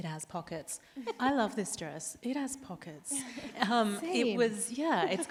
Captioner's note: chuckles